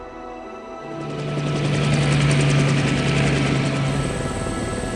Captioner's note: helicopter whizzing